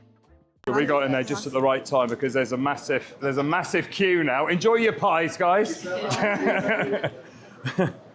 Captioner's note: laughter